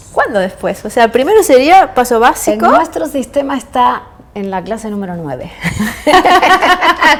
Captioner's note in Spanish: risas